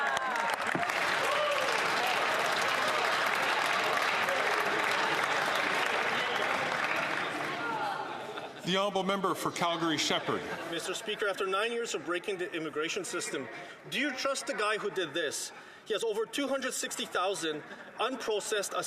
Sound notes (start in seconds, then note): 4.3 some Applause